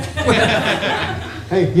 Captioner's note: laughter